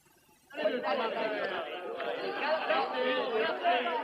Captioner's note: chattering